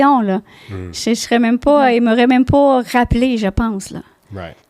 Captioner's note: in french